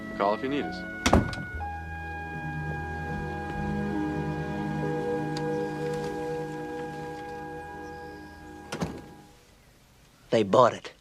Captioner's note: bedroom door closes; front door opens and closes